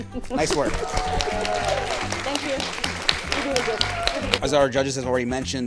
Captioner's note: audience cheering